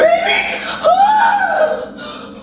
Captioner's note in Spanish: Gritando